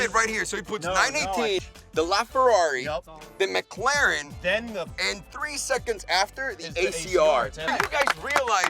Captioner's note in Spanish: aplausos